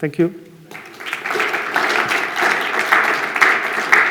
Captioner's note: applause